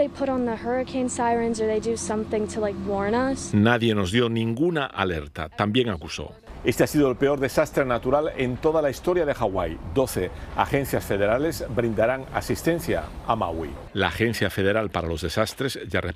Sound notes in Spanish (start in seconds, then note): 6.8 habla en ingés